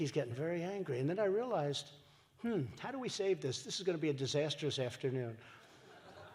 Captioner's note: laughter